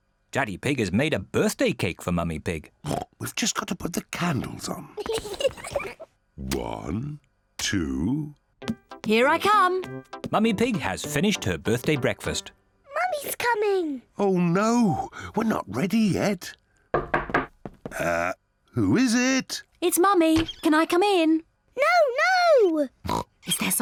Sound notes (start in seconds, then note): 2.9 oinks; 5.2 both laugh; 16.9 knock at door; 23.0 oinks